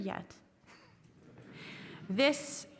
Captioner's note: audience chuckling